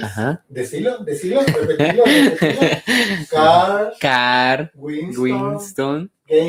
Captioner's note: laughs